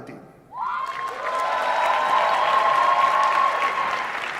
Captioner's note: applause and cheering